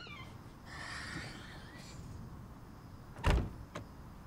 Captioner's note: Clive sighs; door shuts